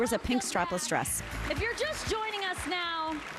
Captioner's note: applause